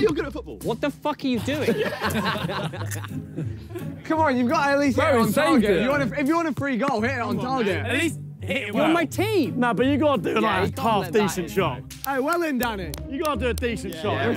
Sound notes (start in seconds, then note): 1.4 players laugh